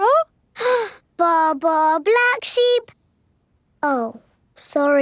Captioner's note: inhales